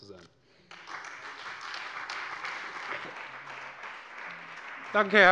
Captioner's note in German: Beifall bei der CDU und dem BÜNDNIS 90/DIE GRÜNEN